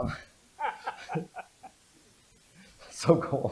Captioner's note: laughter